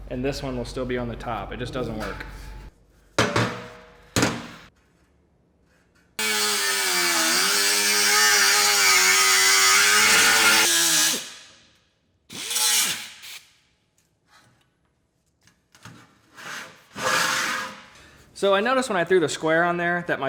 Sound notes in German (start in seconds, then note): 6.2 Säge läuft